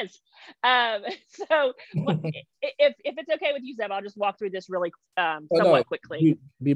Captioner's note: laughs